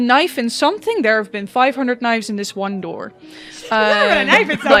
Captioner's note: laughter